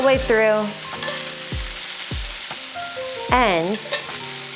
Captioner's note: butter sizzling